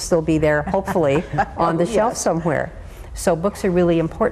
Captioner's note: laughs